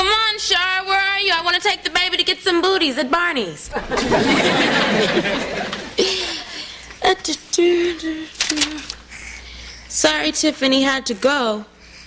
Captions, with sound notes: COME ON, SHARA! WHERE ARE YOU? I WANT TO TAKE THE BABY TO GET SOME BOOTIES AT BARNEY'S. [LAUGHS] [HUMMING] "SORRY, TIFFANY. HAD TO GO.